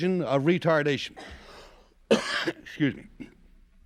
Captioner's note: coughs